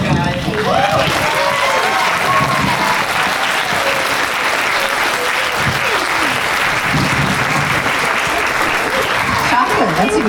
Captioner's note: applause